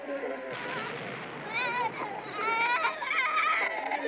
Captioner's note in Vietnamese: Những tiếng nổ